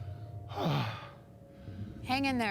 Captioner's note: sighs